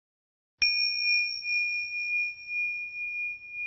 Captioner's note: bell chimes